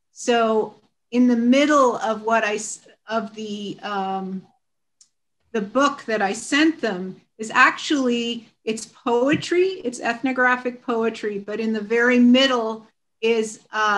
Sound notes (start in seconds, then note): none